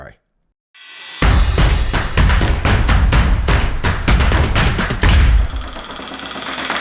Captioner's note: flames sizzle; upbeat drum music